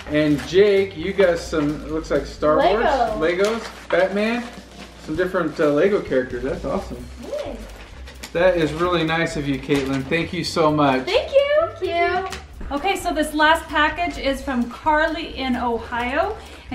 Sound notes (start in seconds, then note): none